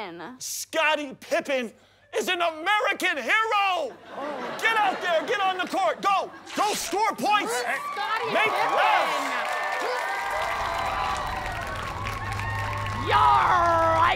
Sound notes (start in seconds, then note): 9.2 audience cheering